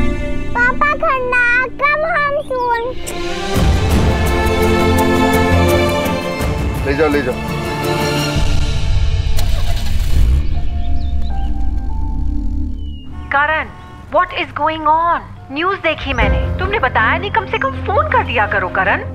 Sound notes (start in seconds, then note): 9.3 Engine starts